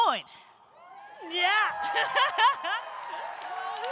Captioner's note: audience cheering; audience applauding; laughs